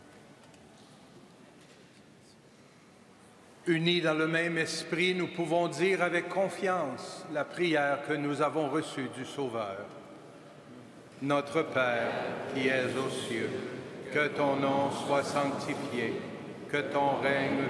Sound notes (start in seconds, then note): 0.0 singing; 7.5 speaking French